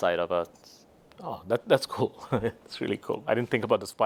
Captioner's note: laughs